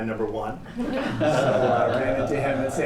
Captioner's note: laughter